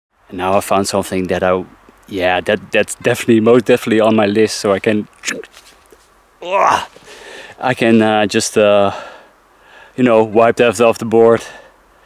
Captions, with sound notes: - Now I've found something that's most definitely on my list. So I can (scratching) (sighing loudly) I can just, wipe it out off the board